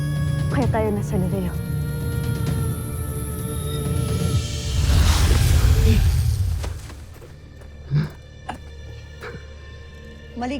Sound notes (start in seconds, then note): 3.7 music fades; 4.4 evil energy whoosh & crackle; 7.8 eerie music playing